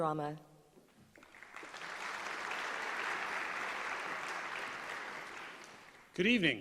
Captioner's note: applause